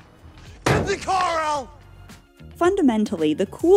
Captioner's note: slams on the car